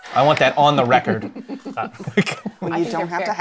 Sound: laughter

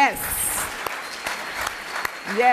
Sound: applause

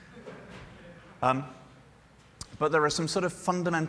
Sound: laughter

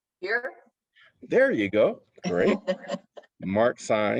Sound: laughter

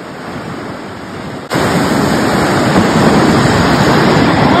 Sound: ocean noise

